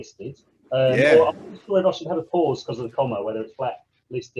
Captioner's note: voice muffling